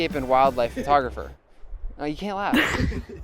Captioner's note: laughs